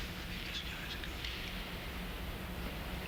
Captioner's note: whispering